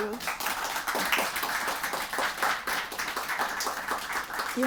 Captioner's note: applause